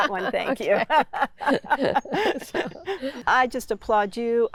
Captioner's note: laughs